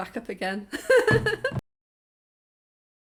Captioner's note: laughing